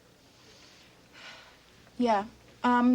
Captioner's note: Marcia sighs